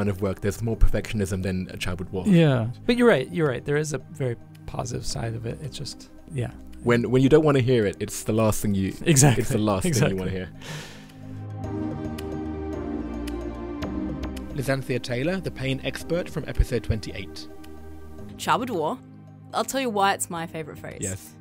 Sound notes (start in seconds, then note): 12.7 voiceover